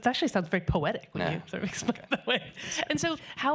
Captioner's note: laughing